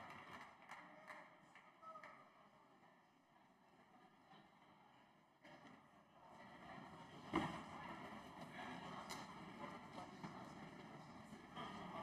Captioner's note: applause